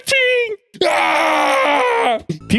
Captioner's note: screams